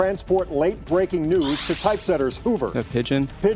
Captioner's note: digital sound effect